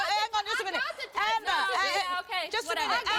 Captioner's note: yelling